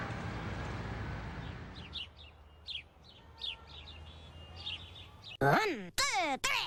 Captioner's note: birds chirping